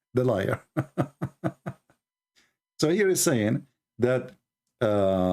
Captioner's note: Ketawa